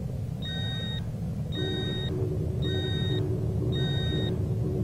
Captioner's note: beeping alarms sound